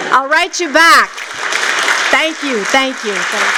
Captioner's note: applause